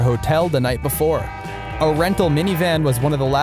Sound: vehicle horns honk

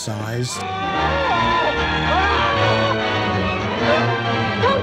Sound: man screaming

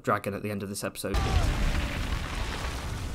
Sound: crash

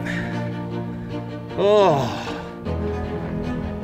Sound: sigh of relief

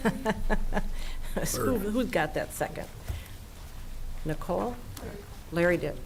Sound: chuckling

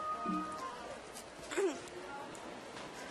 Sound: clears throat

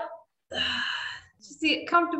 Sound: exhaling

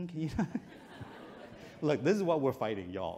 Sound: chuckles

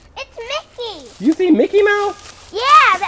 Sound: voiceover; voiceover

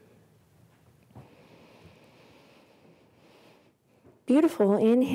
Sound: deep breath

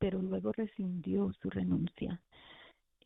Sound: speaking spanish

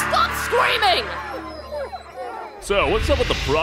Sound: whimpering

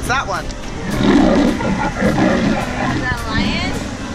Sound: lion roaring

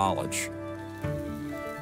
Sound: welding crackle

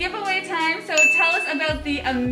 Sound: bell rings

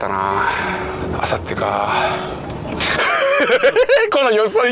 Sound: sigh

